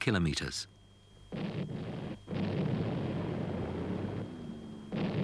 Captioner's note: bombs blasting